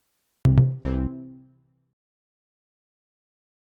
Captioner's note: cheerful tone